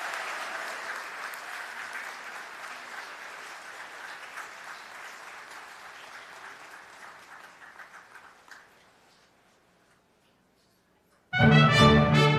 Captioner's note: applause